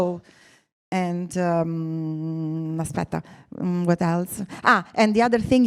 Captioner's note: speaks Italian